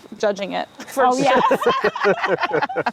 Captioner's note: group laughs